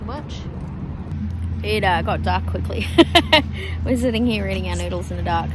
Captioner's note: laughs